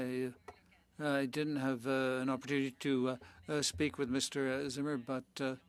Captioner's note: speaking French